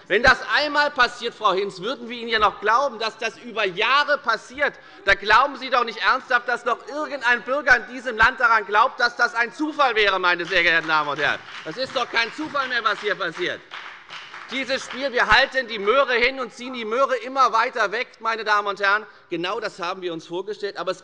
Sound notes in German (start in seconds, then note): 10.3 Beifall bei der FDP und bei Abgeordneten der SPD